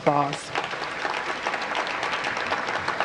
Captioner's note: applause